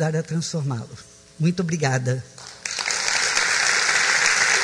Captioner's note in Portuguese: applause